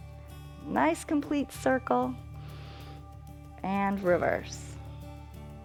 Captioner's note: inhales